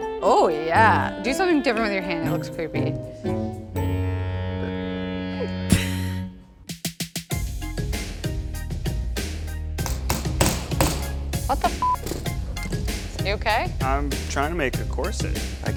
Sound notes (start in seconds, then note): 0.0 speaks in a foreign language; 7.3 upbeat music; 9.8 hammer pounds; 11.7 beep